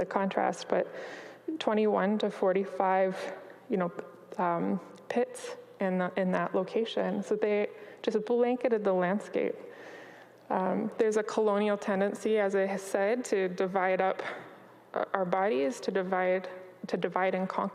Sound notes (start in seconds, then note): none